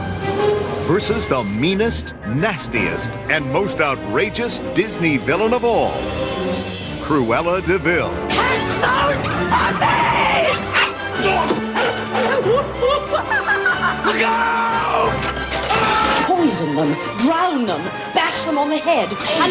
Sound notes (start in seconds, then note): 6.2 whimpers; 10.5 barks; 14.0 both Screaming